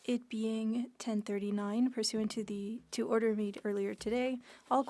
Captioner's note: speaking French